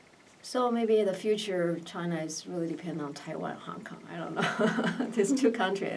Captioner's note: laughs